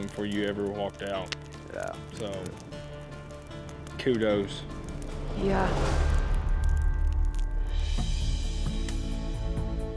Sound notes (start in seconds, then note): 6.2 flames crackling